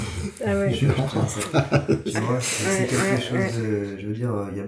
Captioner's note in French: rires